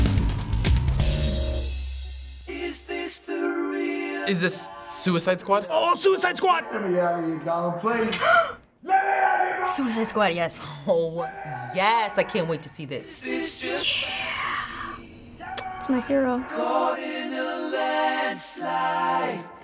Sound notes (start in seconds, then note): 8.0 gasps; 14.4 whispering